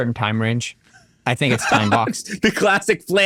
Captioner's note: laughs